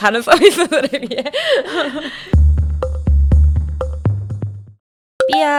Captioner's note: hehehe